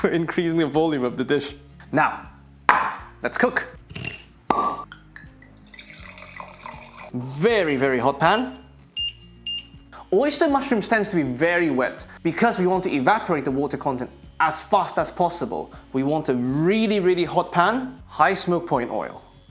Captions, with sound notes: increasing the volume of the dish. Now, let's cook. (sizzling) Very, very hot pan. (beeping) Oyster mushrooms tends to be very wet because we want to evaporate the water content as fast as possible. We want a really, really hot pan, high-smoke point oil.